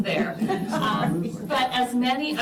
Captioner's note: laughter